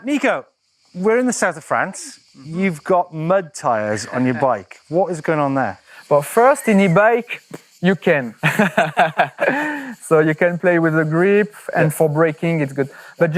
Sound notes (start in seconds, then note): 8.4 laughter